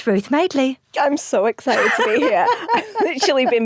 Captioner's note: laughs